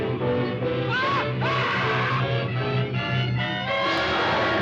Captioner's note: dramatic music; man screaming